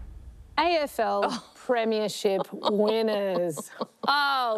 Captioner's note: chuckles